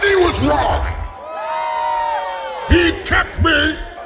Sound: crowd cheering

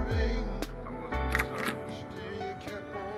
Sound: door open

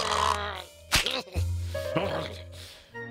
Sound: growling; eyelid snaps

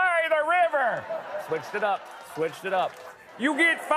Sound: normal voice

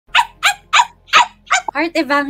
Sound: dog barking

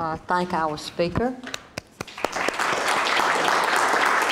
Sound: applauding

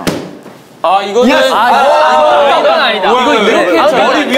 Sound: complaining

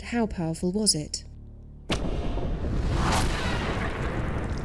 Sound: sound of arrow slicing through an object

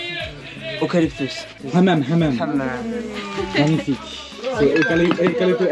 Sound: foreign language

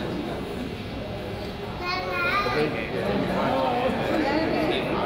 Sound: crowd chatters

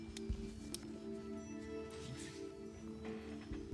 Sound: whispering

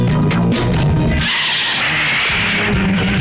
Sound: tires squealing

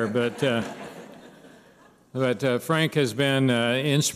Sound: laughter

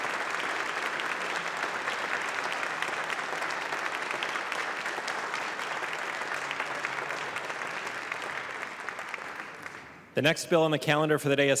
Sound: applause

